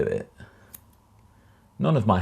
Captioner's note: scissors snipping